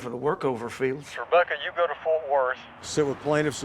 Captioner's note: on phone